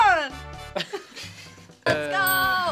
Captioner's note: both laugh